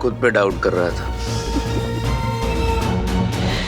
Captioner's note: chuckles